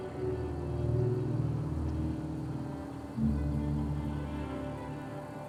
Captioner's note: car engine humming